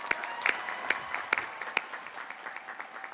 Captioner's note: applause